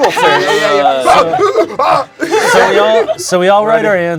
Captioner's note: yells